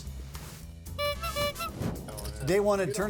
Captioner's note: honk sounds